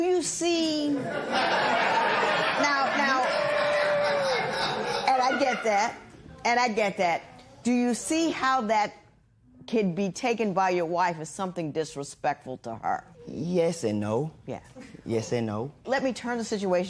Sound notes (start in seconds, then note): 1.0 laughter; 3.3 scattered cheers and applause